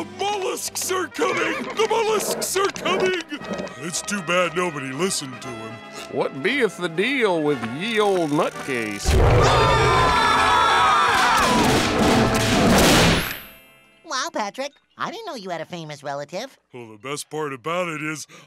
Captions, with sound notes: The mollusks are coming! The mollusks are coming! It's too bad nobody listened to him. What beeth the deal with ye olde nutcase? [screaming] Wow, Patrick. I didn't know you had a famous relative. Well the best part about it is,